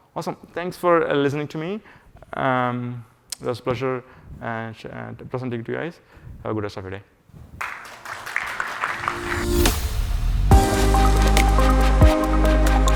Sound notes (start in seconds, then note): 7.6 audience applauding; 8.9 warm electronic music